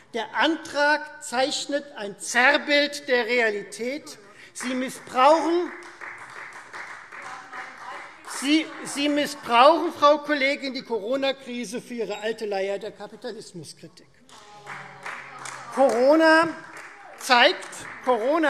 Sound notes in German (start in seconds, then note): 4.5 Beifall Freie Demokraten; 14.2 Beifall Freie Demokraten - Zuruf DIE LINKE